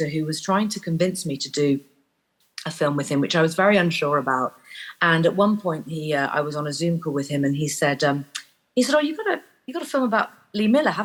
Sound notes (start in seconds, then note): none